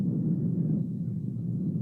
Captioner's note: heavy thunder fx